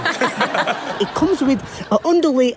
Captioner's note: audience laughs